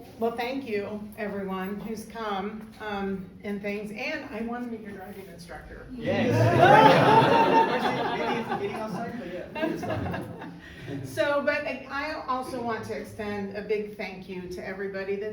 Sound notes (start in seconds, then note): 6.0 crowd laughs; 10.1 host mom laughing